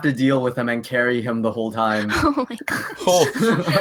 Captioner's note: laughs